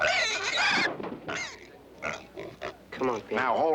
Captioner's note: thud